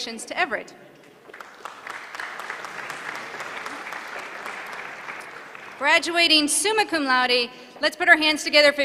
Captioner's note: applause